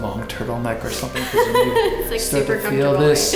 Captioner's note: laughs